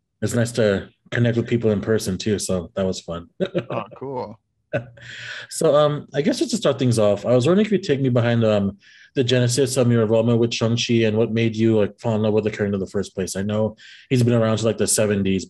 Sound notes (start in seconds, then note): 3.4 laughs